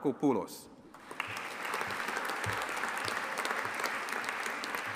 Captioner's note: audience applauding